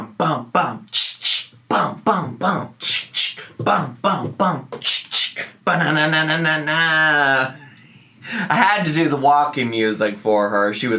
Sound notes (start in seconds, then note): 7.4 chortles